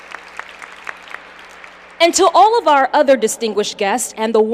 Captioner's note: applause